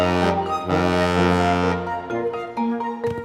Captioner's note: boat horn honking